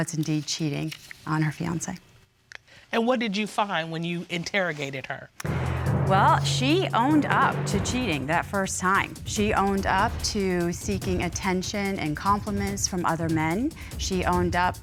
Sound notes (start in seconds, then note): none